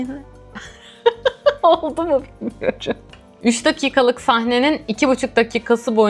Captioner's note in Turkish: kahkaha